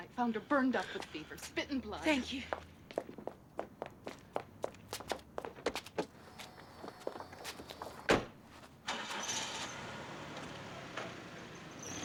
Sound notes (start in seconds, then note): 8.8 car engine starts